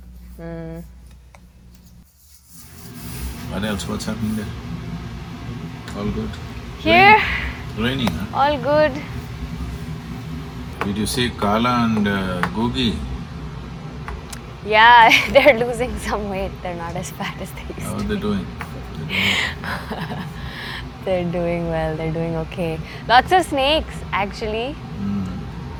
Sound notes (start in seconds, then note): 17.6 laughs